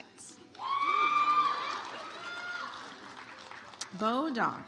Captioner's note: audience applauds